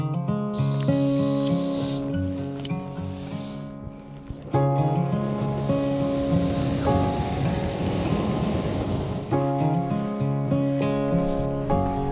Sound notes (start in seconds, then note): 0.9 camping stove hisses